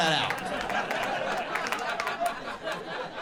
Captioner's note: crowd laughs; crowd claps